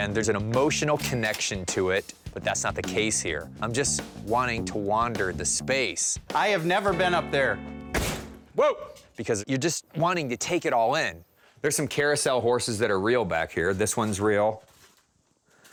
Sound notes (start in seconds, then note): 7.9 thudding sound